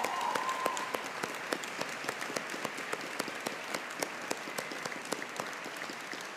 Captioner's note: audience cheering; audience applauding